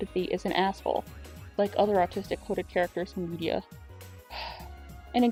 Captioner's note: sigh